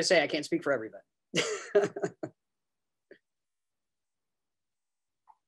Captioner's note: laughs